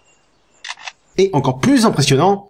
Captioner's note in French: bruit d'appareil photo